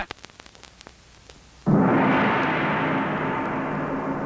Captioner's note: gong banging